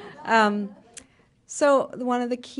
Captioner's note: laughter